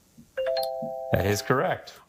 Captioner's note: text chimes